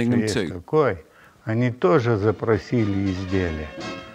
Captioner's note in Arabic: الصوت المنطوق بالروسية